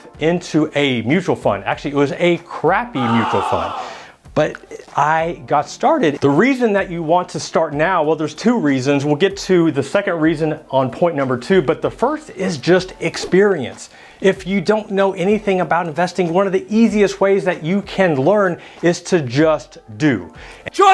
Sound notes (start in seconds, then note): 2.9 exclaims